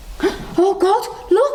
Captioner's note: muffled groaning; gasps